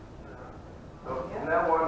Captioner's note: audience murmuring